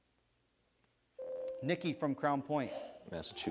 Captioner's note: buzzer sounds